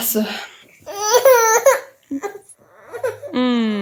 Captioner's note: crying